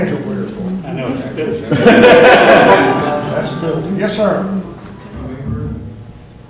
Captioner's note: laughter